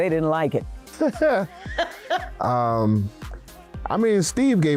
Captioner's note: laughing